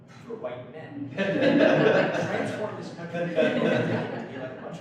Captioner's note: audience laughs